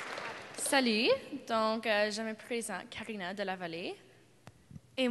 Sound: applause

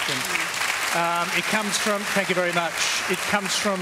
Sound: applause

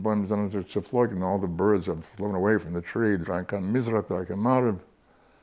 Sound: Yiddish; Yiddish

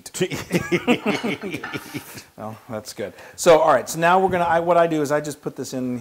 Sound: laugh

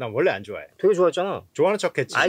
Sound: speaking in Korean

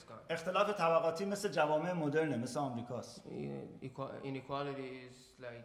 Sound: speaking in farsi

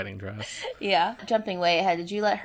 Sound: laughs

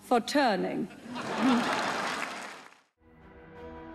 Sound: audience laughing and applauding; tense music

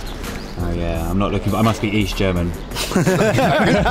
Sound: laughing loudly

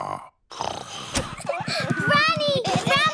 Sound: snoring

